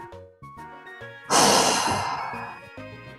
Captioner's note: loud sigh